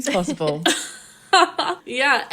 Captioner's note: laughing